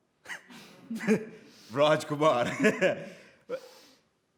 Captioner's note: laughs